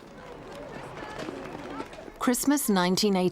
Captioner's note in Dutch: menigtes mompelen